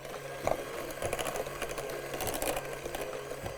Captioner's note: mixer whirring